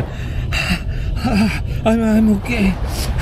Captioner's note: unconcealed groan